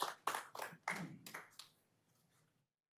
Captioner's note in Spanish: aplausos